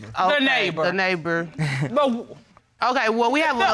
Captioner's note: chuckles